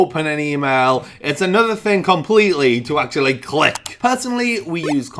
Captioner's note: click